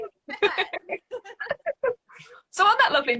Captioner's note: both laughing